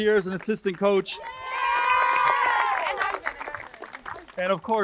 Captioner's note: crowd cheers and applauds